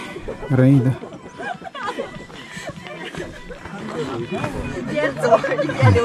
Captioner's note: laughs